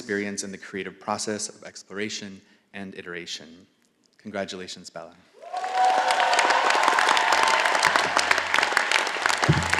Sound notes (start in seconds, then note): 5.4 all applauding